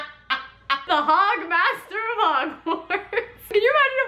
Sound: laughs

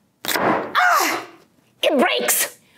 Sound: gasp

